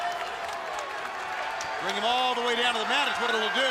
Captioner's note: crowd cheering